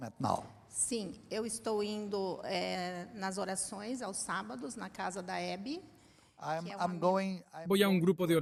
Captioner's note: Hablando idioma extranjero